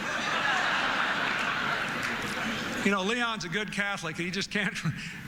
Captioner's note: laughter